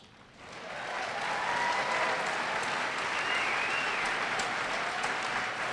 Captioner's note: applause; cheering